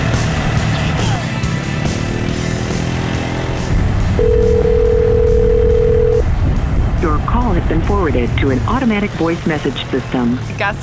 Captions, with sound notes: [telephone ringing] (robot voice) Your call has been forwarded to an automatic voice message system.